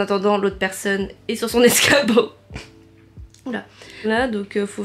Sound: chokes

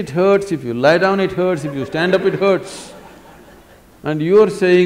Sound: laughter

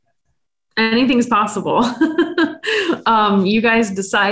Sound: laughs

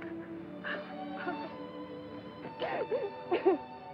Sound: sobbing

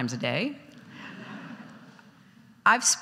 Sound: audience laughs

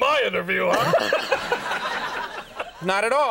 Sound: audience laughs

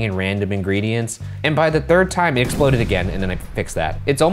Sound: explosion

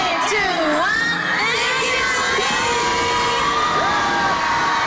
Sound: cheering

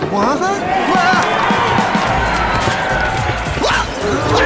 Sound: crowd cheering

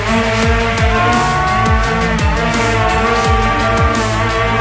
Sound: hover board buzzing; people screaming

